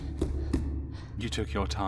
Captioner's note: rushing footsteps echoing